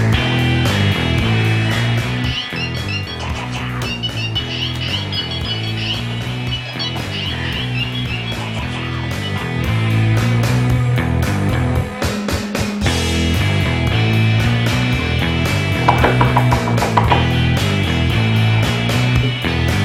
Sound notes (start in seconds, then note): 2.2 mobile ringing